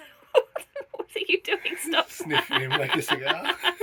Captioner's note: laughing